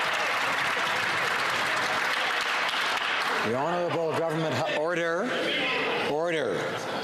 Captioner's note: some Applause